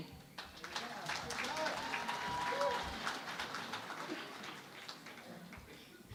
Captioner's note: applause